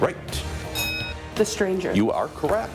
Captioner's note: bell Ringing